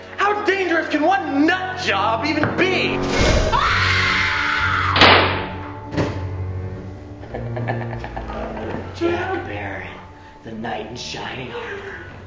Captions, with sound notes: How dangerous can one nut job even be? (screaming) (gun firing) (laughing) - Jack Barry. The knight in shining armor.